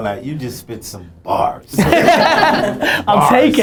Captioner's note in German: Lachen